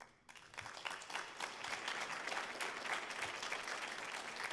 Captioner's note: audience applauding